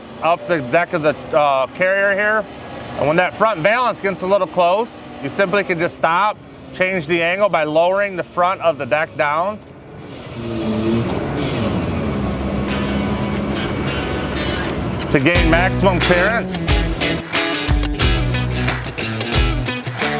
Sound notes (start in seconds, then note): 10.1 motor loudly whirring; 15.3 guitar and claps music